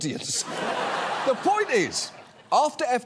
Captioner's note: audience laughs